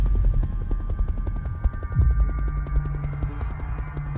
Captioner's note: helicopter sounds